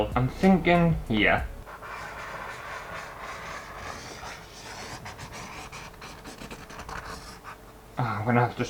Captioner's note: pen Scraping On Canvas